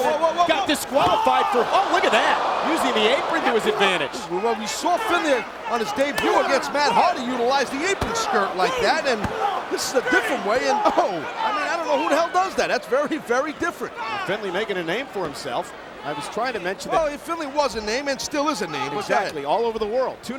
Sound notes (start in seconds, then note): 1.4 screams